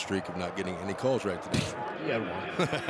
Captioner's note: laughs